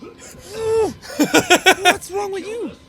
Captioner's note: laughing